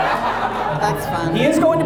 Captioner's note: audience laughs